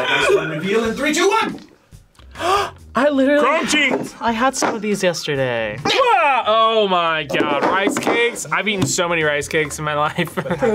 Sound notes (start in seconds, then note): 2.2 gasps